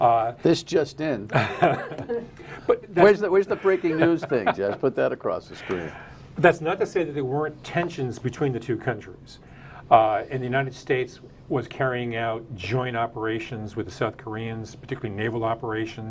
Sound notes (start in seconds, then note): 5.3 laughter